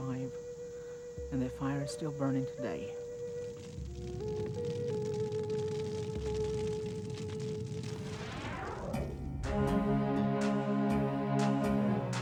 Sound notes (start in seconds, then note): 4.6 fire Crackling; 8.8 end Screen Music